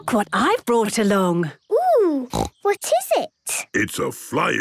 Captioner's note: snorting